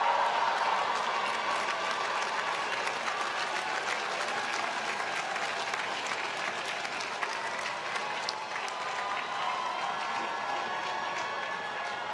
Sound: applause

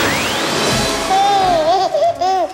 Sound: baby laughing

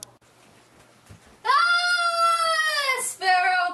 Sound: scream

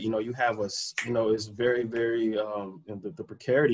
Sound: snap

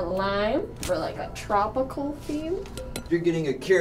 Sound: glass clinks

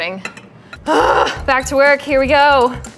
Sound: groaning

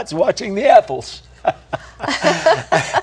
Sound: laughter

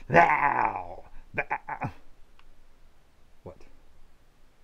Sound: stutters

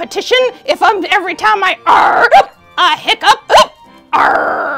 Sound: hiccups

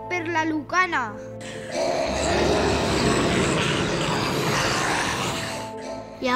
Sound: zombies growling

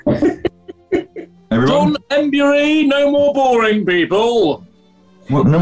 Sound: giggling; booming voice

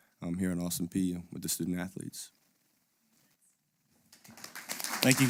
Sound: applause

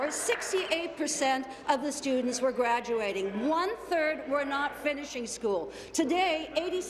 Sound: applause

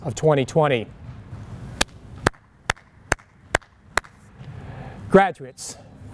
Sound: hands clapping

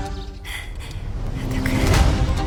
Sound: mutters

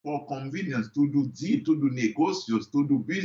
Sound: foreign language

